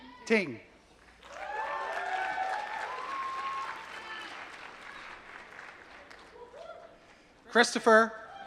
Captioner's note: applause